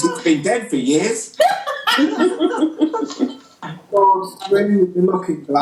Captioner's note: group laughter